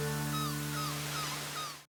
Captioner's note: seagulls cawing